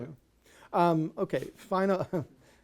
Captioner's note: laughs